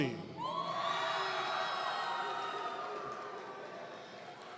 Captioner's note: audience cheering